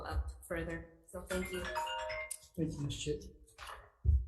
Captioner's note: phone timer rings